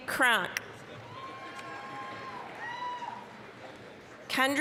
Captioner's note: applause, cheering